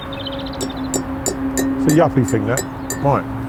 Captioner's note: spoon tapping